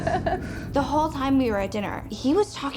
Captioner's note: laughs